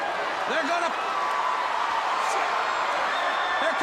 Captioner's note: crowd cheering